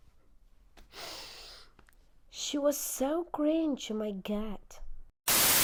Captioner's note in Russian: вздох